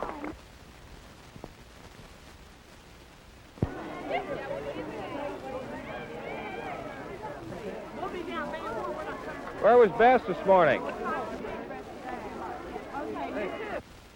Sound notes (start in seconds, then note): 3.6 background conversations